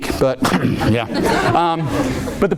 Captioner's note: audience laughing